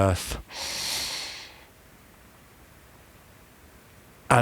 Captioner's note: breathing